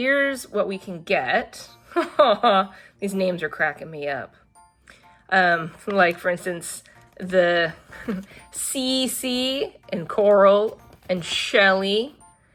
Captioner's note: laughs